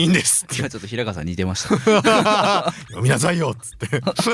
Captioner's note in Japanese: 笑い